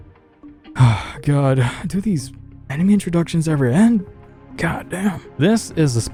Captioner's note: sigh